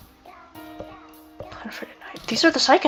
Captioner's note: mutters "on a Friday Night"